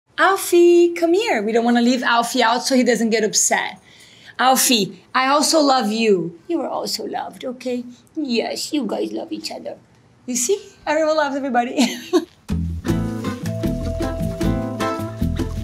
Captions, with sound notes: - Alfie, come here. We don't wanna leave Alfie out so he doesn't get upset. Alfie, I also love you. You are also loved, okay? Yes, you guys love each other. You see? Everyone loves everybody [chuckles]. [smooth jazz music]